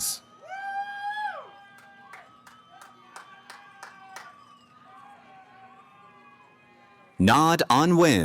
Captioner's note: cheering